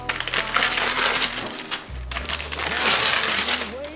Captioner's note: wrapping paper tearing